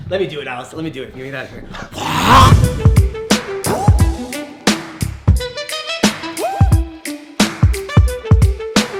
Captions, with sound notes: - Let me do it Alex. Let me do it. Give me that. (yells) (upbeat tempo music)